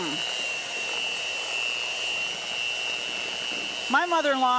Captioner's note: mixer buzzing